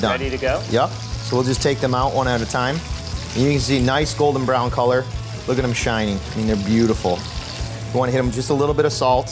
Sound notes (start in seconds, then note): 2.8 sizzling